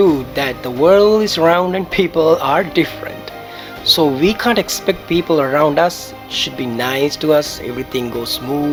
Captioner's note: laugh